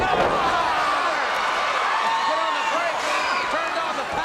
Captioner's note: audience cheers